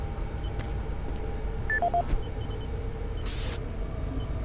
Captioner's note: beeping